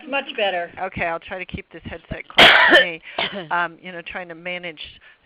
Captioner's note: someone coughs